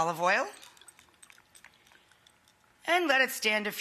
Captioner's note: liquid gurgling